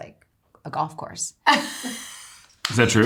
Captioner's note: Eiza laughing